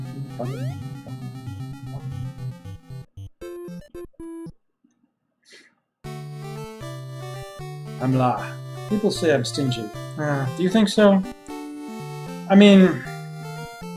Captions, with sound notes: [humming along] "I'm Lah. People say I'm stingy. [sighs] Do you think so?" I mean...